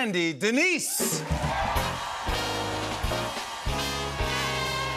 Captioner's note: cheers and applause